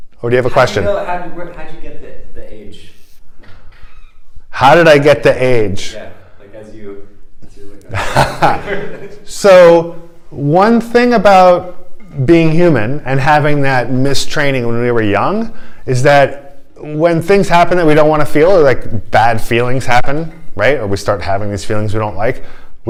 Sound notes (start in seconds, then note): 7.8 laughter